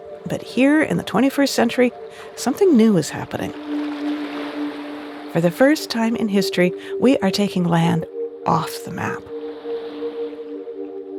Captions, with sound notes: But here in the 21st century, something new is happening. (soft ambient music continues) (water lapping continues) For the first time in history, we are taking land off the map.